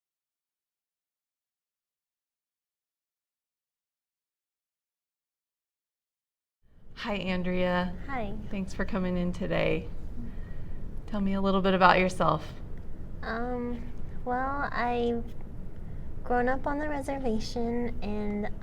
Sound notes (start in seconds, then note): 0.0 silence